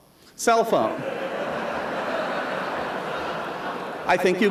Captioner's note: laughter